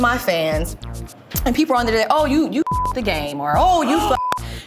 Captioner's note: beep